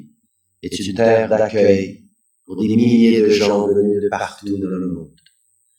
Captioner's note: french